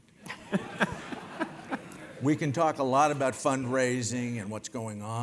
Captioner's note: laugh